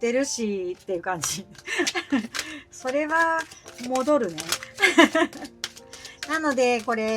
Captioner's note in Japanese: 笑い